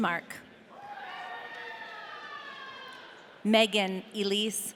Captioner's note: audience cheering